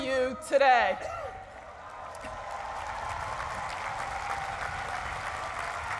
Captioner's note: cheering and applause